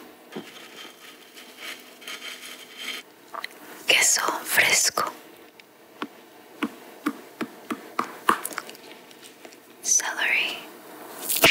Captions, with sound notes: (spaghetti rattling) Queso fresco. (cheese thumping) Celery.